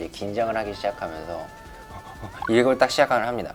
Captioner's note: heart pumps